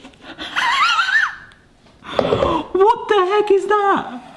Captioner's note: chuckles